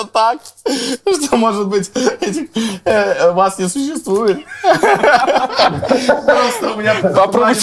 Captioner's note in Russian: смех